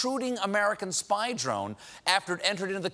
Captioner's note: none